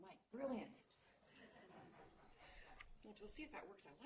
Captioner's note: laughter